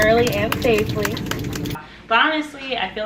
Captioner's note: passengers aplauding